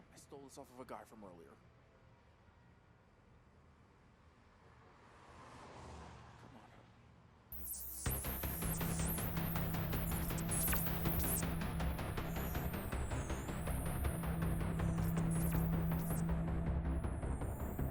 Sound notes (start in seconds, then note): 7.5 digital whirring; 8.1 adventurous music